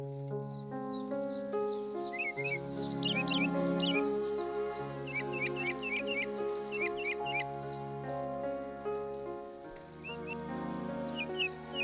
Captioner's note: birds Chirping